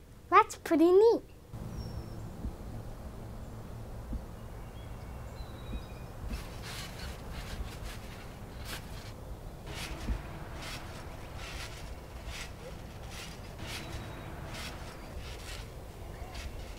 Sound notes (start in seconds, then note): 2.1 birds chirping; 2.1 wind rustling; 6.7 trampoline squeaking